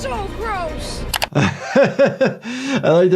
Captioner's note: screen clicking; Jordan laughing